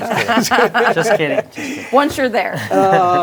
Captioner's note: everyone chuckling